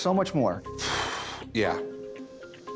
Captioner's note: exhales